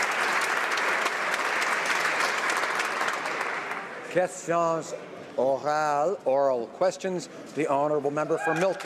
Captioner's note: some Applause